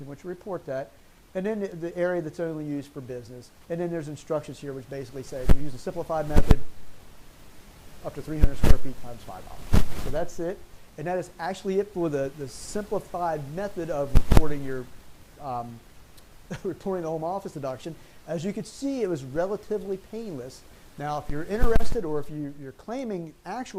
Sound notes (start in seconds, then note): 16.5 chuckles